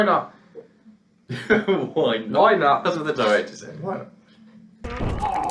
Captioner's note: laughs